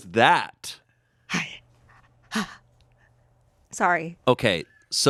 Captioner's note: whimpers